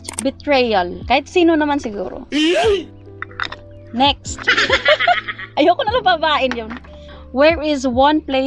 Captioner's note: laughing